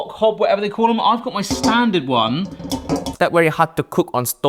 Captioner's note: wok clatters